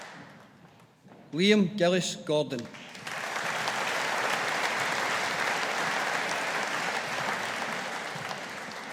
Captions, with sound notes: Liam Gillies Gordon. (AUDIENCE APPLAUDING)